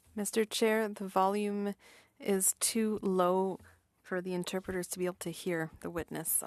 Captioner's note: speaking French